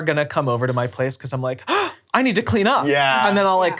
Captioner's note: gasps